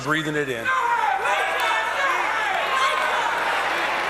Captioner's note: cheers and applause